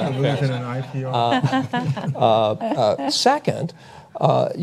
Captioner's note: laughs